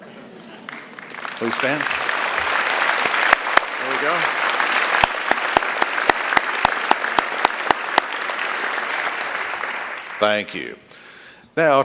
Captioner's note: applause